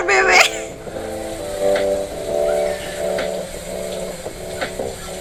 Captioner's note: Akin's breathing and the way Jin strokes his neck